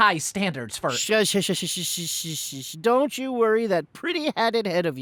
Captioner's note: shushing